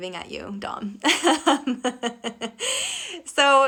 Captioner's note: laughing